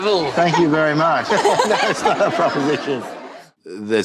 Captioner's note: all laugh